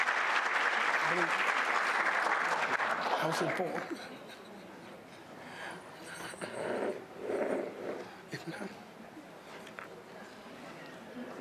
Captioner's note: applause